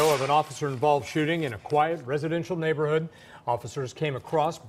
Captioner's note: sound of gunfire